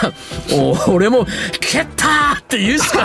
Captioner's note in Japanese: 笑い